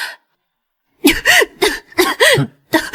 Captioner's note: cough cough